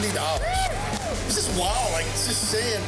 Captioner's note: crowd cheering